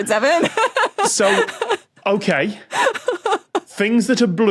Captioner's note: laughs